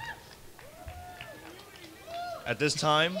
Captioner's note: crowd cheering